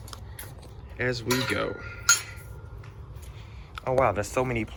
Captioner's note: fence latch clanking